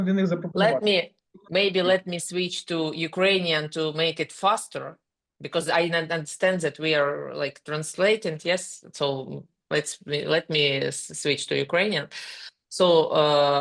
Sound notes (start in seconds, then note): 0.8 speaking ukrainian